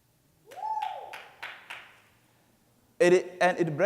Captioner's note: clapping